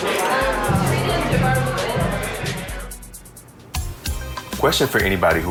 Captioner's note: group chatting and laughing